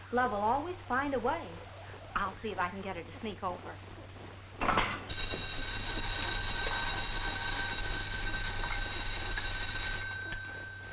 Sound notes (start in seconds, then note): 4.8 foot thuds; 5.0 alarm clock ringing